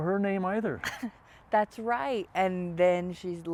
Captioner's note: chuckles